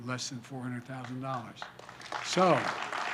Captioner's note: applause